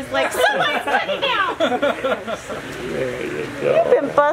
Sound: laughter

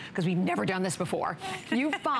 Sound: laughter

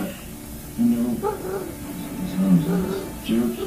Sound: dragon chatters

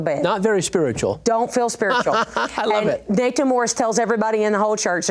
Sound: laughs

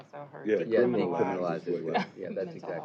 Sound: overlapping chatter

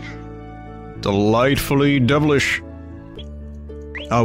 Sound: deep voice

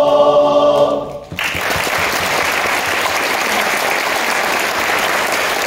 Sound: applause

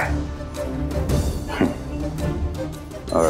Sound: scoffs

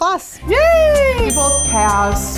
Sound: yelling

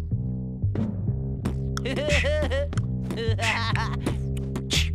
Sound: laughing

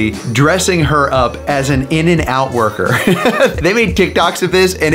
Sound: laughs

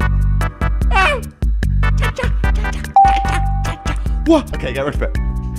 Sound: makes noises to the beat of the music

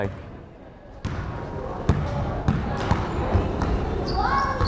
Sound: crowd chattering

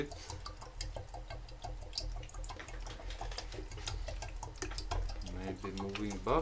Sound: water still gurgling

